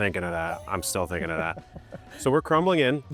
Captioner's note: laughing